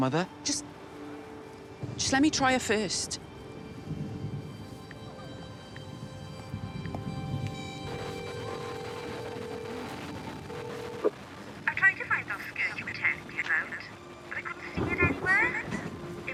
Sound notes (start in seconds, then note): 5.0 keypad tones; 7.7 ringing interspersed with static